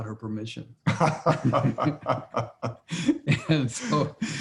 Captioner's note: Larry and J.B. laughing